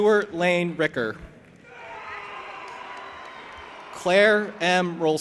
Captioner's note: audience applauding and cheering